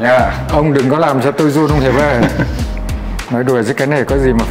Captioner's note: laugh